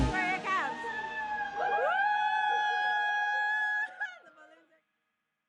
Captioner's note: all cheering